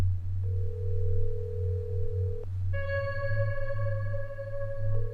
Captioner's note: cellphone ringing; mysterious music